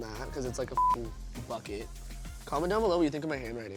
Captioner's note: beep